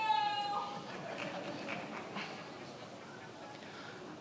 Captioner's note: many laughing